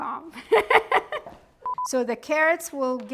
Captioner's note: laughing; bar tone beeping